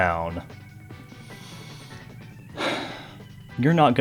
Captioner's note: deep sigh of contempt